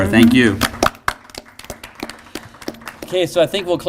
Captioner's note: applause